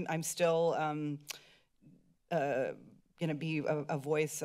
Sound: clicks tongues

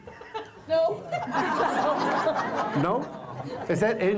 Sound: laughter

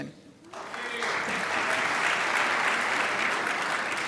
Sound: crowd applauds

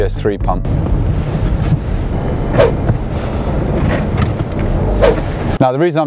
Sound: wind blowing

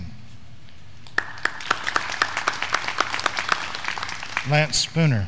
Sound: graduands clapping

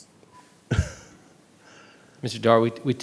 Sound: chuckles

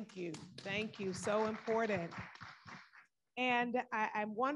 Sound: audience applauding

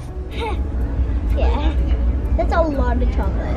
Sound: laughs

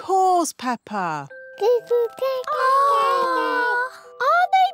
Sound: babies gurgle

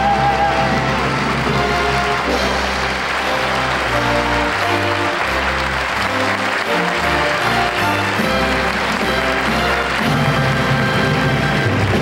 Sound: audience applauds

